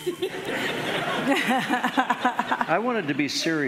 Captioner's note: laughing